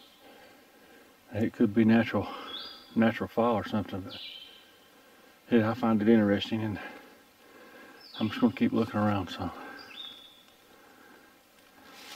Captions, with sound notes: It could be natural fall or something. (bird chirping) But I find it interesting and I'm sure gonna keep looking around some.